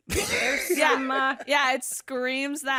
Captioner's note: laughs